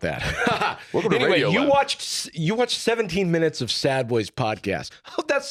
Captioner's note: laughs